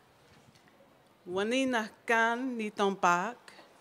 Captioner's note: non-english speech